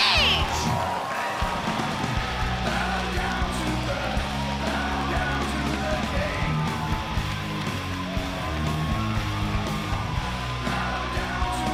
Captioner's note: crowd cheering